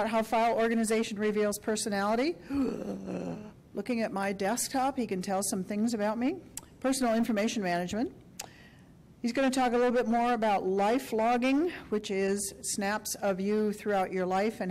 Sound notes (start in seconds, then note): 2.5 groans